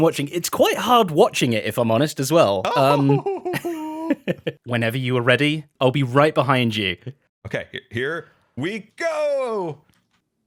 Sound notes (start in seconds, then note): 2.6 laughs